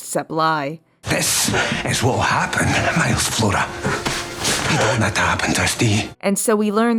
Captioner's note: ghost woman gasping